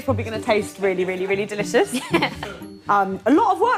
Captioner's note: laughs